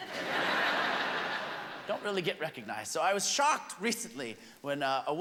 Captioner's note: laughter